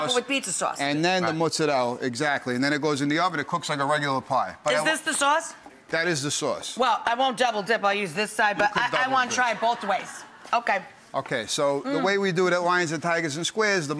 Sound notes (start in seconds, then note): 8.6 laughing